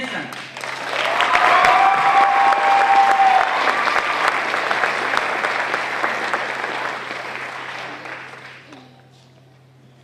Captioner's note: applause